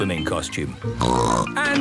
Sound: snorts

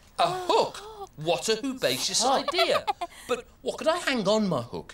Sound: Tula laughs

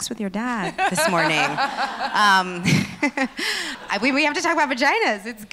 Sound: laughs

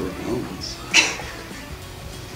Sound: laughs

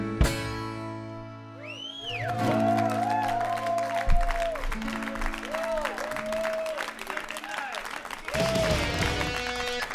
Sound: applause

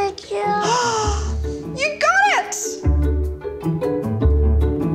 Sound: gasps

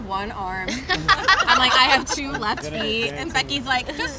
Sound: all laughing

